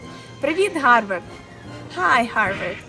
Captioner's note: speaking in foreign language